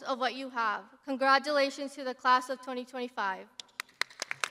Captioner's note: crowd applauding